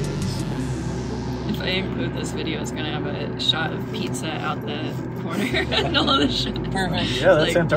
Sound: laughs

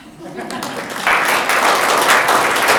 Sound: audience clapping; people laughing

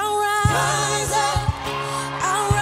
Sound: crowd cheering

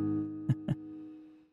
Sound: laughs

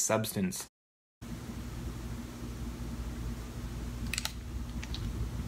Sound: static

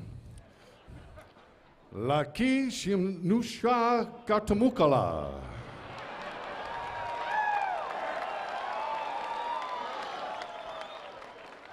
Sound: laughter

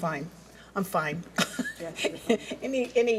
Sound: laughs

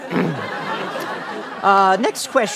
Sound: clears throat

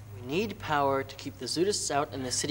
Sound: none

